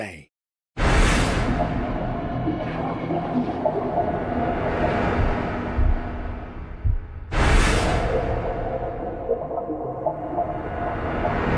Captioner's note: menacing and underwater-sounding sounds